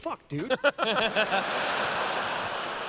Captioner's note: laughter